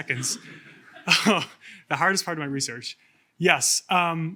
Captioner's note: chuckles